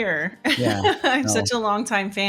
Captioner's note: laughing